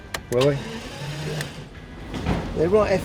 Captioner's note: car starting